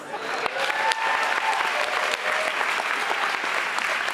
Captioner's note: audience applauds